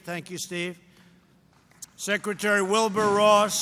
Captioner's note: applause